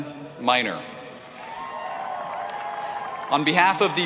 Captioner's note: applauding